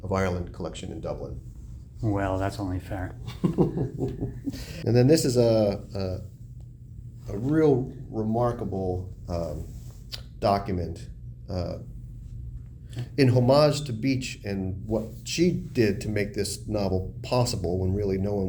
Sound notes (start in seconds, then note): 3.2 laugh